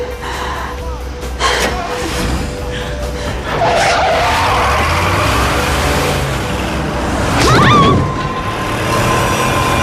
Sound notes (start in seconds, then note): 3.8 tires screeching